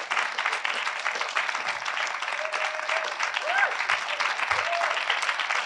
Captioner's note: audience continue applauding